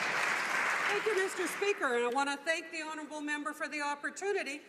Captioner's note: some Applause